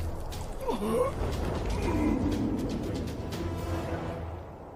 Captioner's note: groaning